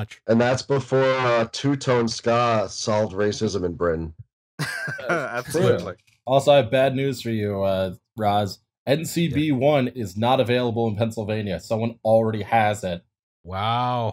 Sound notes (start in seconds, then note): 4.6 laughter